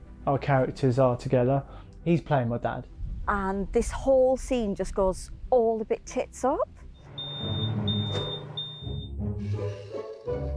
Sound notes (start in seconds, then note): 7.0 smoke alarm beeps; 7.1 downbeat music